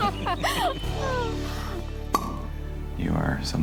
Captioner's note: both laughing